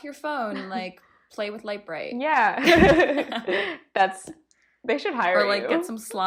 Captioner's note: giggle